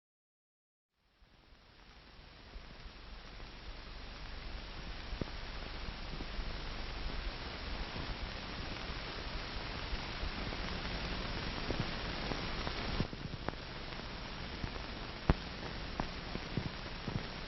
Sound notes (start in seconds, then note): 0.6 hiss, pops, and clicks fade in